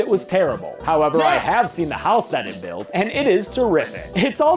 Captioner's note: laughs